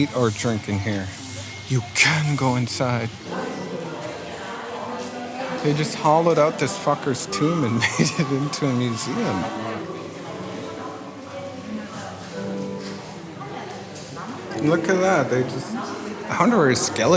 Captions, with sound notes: Maybe they were trimming it. Do not eat or drink in here. You can go inside. They just hollowed out this fucker's tomb and made it into a museum. (people chattering)